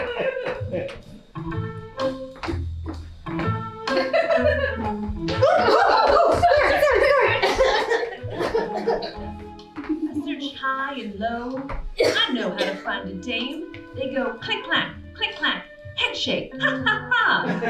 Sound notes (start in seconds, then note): 7.5 coughing